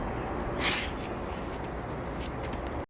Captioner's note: dog exhales forcefully